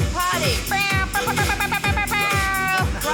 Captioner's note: imitates air horn